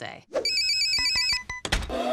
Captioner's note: phone ringing; machines whirring